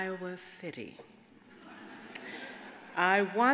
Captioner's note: audience laughs